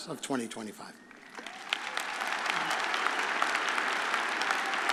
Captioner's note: audience applauding